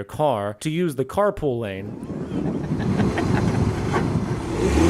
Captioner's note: hehehehe